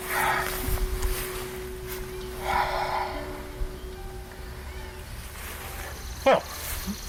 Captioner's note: exhales